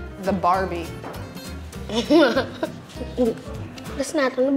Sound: giggling

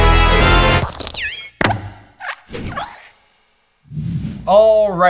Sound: logo swooshing

